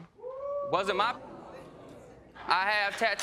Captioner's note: audience member whooping; audience gasping